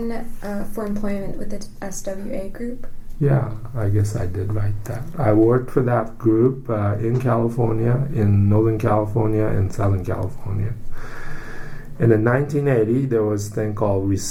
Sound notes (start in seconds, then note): 10.8 takes deep breath